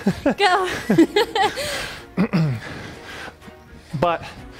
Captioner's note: both laughing